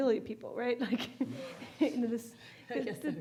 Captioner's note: audience laughing